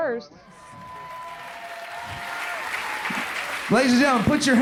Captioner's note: applause fades in